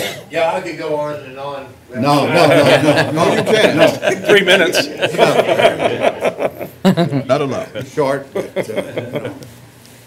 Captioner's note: laughter